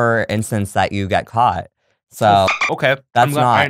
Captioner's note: dolphin noise